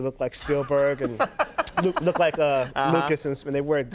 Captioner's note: Conan laughs